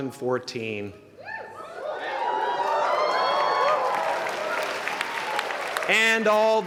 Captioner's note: applause